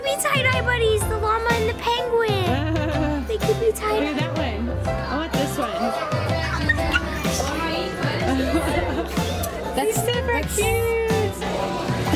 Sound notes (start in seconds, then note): 2.4 laughing; 7.3 gasps